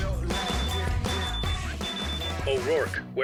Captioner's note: bracelet beeping